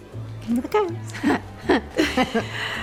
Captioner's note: chuckling